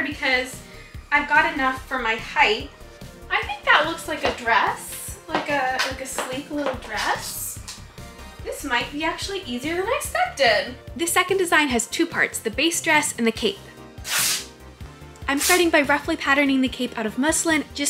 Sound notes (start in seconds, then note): 14.0 fabric tearing